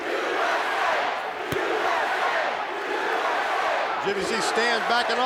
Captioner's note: crowd cheering